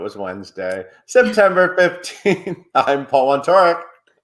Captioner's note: chuckles